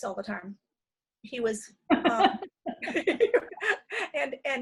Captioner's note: laughter